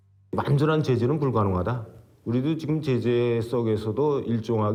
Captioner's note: speaking Korean